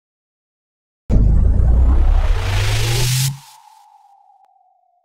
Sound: logo rumbling

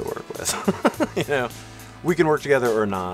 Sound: laughter

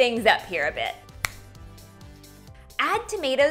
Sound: snapping

